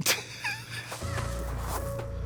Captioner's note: Katya laughs; tense music